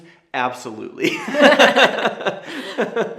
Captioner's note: both laughing